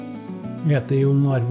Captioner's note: speaking Norwegian